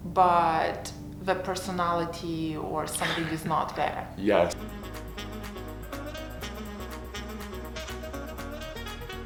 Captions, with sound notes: but the personality or something is not there. (laughs) - Yes. (upbeat music)